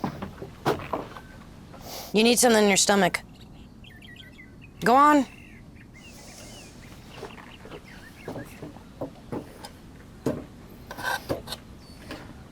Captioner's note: snorts